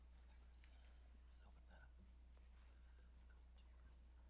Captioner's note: whispering